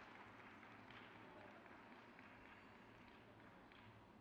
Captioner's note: crowd cheers